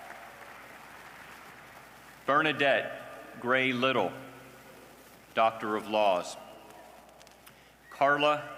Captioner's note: cheers and applause